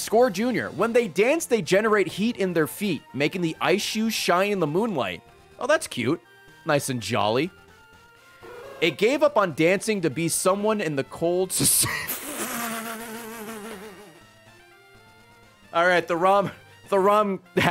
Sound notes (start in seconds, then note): 14.6 laughs